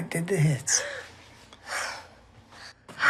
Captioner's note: Holly gasps